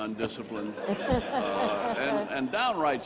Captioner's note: all laughing